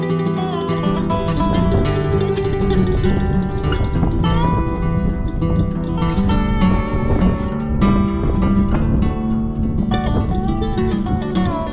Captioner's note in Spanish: Sonido del viento